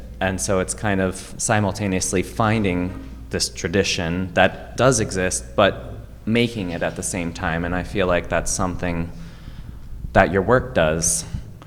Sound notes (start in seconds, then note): none